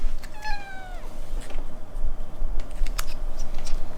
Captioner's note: cat meows